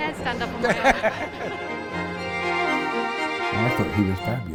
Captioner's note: both laugh